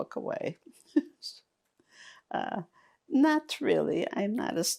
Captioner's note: laughing